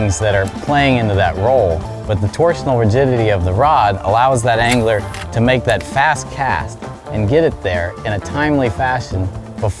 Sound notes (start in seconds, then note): 4.4 line hisses